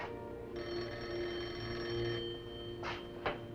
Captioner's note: telephone rings